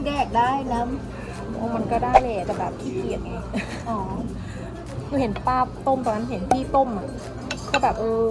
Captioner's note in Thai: หัวเราะ